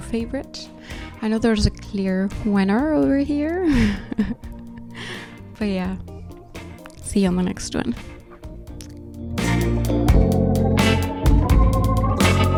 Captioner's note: laughs